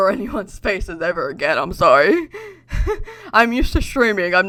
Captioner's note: laughs